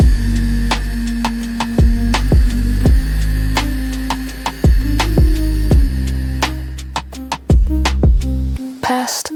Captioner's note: heartbeat slows down, irregular